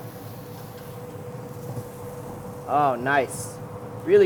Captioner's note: sizzling